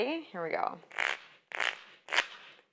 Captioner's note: cards shuffling